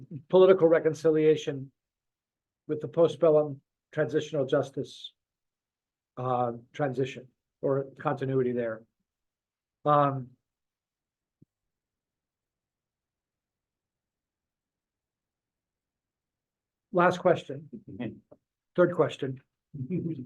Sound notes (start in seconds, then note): 11.9 laughs